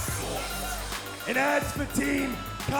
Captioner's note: crowd cheering